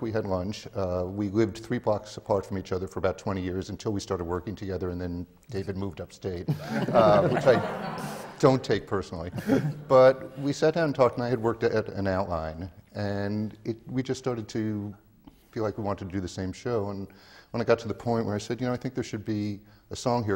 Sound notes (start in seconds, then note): 6.5 laughter